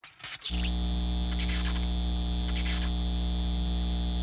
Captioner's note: neon signs buzzing